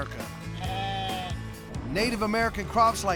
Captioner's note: sheep bleating